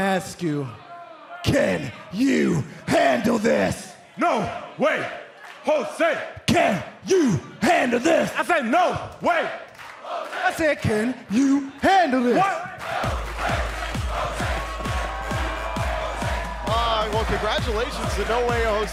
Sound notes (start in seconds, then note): 7.0 crowd chatter; 12.3 crowd chatter